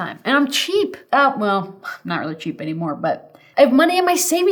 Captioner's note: scoffs